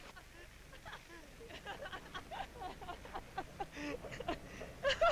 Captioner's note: people laughing